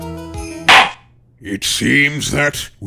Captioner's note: gavel slams!